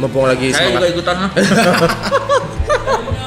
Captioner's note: laugh